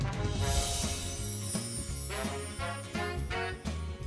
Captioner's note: upbeat music; chiming